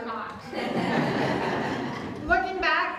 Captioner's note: audience Laughter